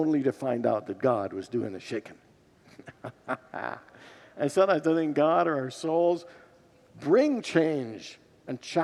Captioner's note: laughs with congregants